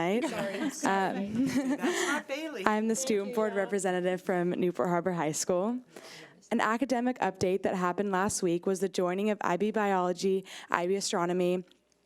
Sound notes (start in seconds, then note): 0.0 people laughing; 0.1 laughing drowns out speaker